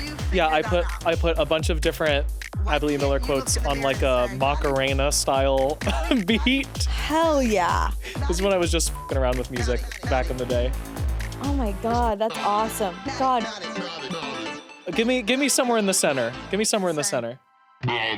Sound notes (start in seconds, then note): 5.8 laughs; 8.9 beep